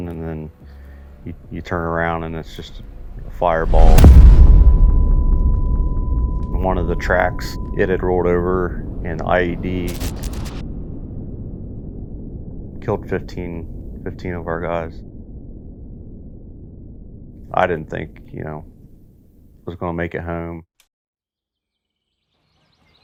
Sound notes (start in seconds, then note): 3.9 bomb exploding